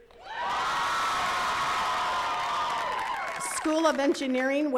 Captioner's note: attendees cheering and clapping